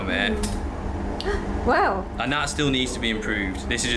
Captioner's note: metal clanking; gasps